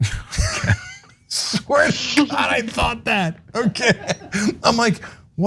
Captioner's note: laugh